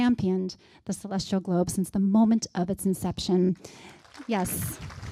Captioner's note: applause